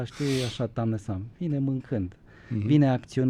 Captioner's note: snoring